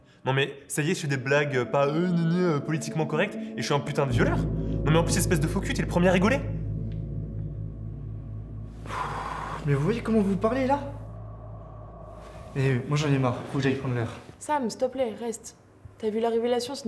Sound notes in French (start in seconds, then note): 7.0 musique pesante; 8.7 Sam soupire